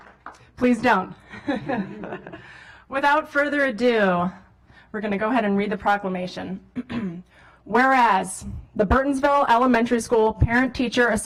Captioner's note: applause